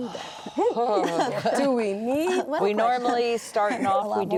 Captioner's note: sighs